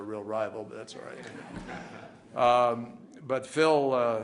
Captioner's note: laughter